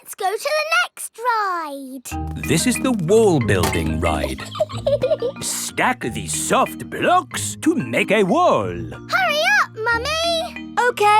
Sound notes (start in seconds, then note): 3.8 laughs